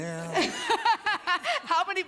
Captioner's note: laughter